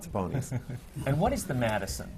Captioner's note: laughter